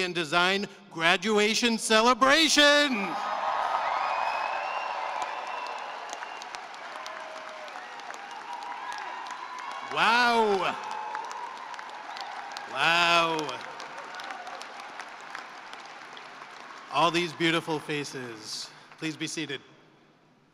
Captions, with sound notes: and Design graduation celebration. [CHEERING AND APPLAUSE] Wow! Wow! All these beautiful faces. Please, be seated.